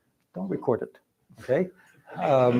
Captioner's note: laughter